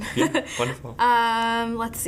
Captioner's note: laughing